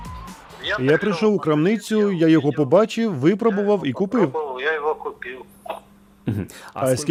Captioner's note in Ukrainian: по телефону